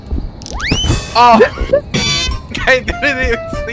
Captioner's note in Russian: угорает на заднем плане